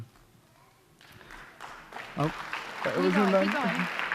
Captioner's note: applause